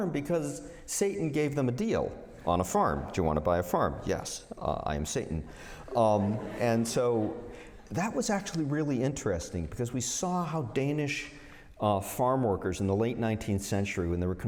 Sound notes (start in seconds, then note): 5.8 laughter